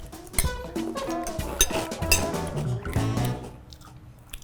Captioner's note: cereal crunching